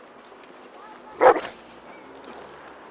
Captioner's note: dog Bark